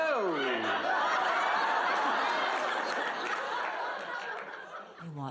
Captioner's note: laughs